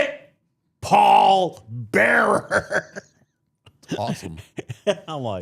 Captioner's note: laughs